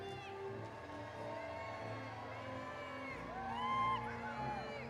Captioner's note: audience cheering